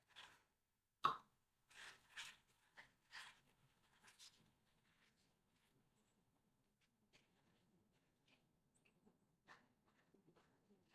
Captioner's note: silence